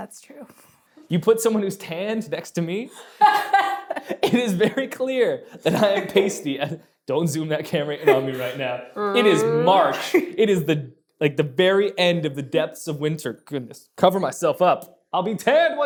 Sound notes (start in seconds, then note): 2.9 laughs